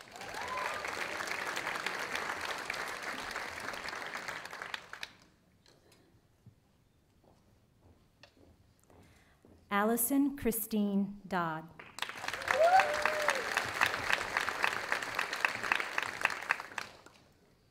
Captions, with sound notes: (audience applauding) Allison Christine Dodd. (audience applauding)